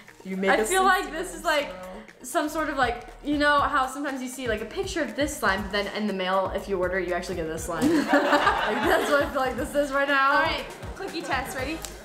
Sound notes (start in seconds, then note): 7.9 laughs; 8.1 canned laughter